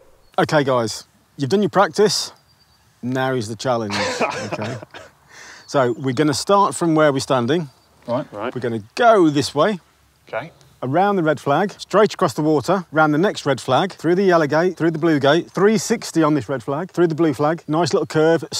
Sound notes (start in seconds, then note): 3.8 laughs